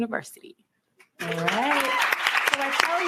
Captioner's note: cheering and applause